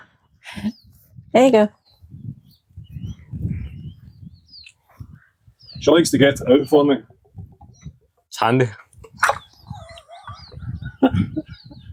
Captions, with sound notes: There you go. [Birds tweeting] She likes to get it out for me. It's handy. [Laughter. Birds tweeting]